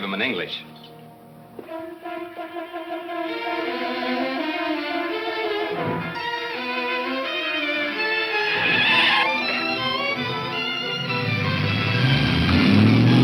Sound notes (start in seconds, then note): 0.2 suspenseful music; 7.7 tires squealing